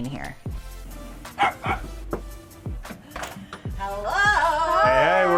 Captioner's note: dogs barking; knocking